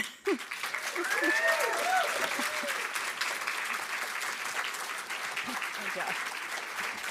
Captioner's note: audience applauding; audience cheering